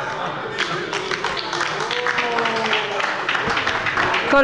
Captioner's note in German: Beifall bei der LINKEN – Zurufe von der CDU und der FDP